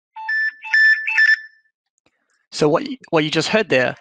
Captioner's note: phone beeps